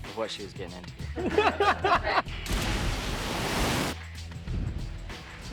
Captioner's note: laughing